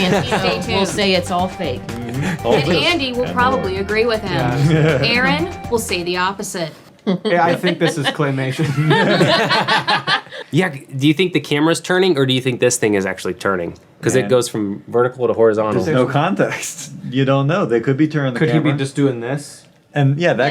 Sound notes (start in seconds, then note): 9.3 everyone laughing